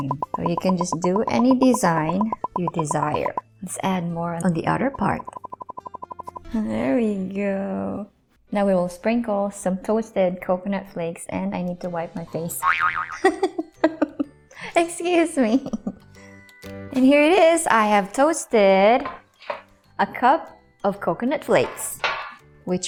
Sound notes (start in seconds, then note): 13.2 laughing so hard